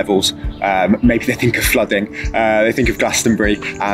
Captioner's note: laughing